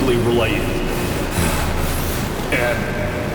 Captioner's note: heavy breathing